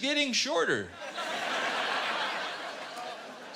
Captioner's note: laughter